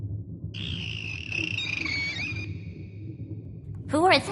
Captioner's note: dolphins call out to Justine